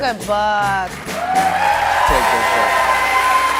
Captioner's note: cheers and applause